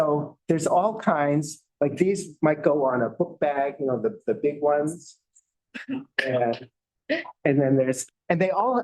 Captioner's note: chuckles